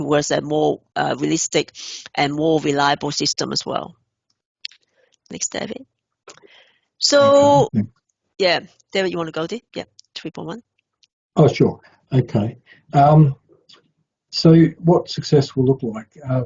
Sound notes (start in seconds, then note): 7.2 murmuring